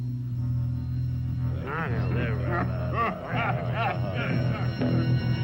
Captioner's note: men chattering softly